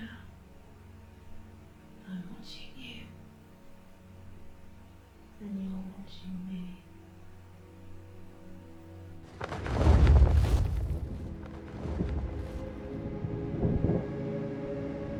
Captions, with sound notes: Yeah, I'm watching you and you are watching me. (feathers flap)